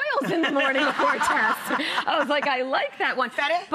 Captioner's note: audience laughs